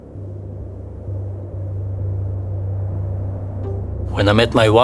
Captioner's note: air whooshes